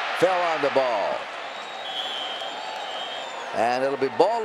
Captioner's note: whistle blows